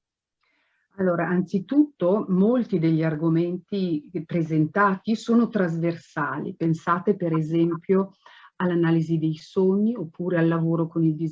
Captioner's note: speaking Italian